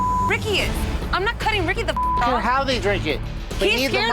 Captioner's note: beep